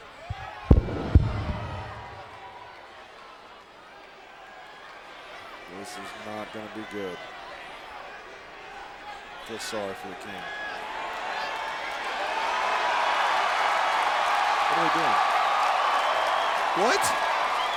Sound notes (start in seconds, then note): 11.6 crowd cheers